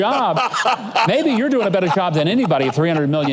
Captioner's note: laughing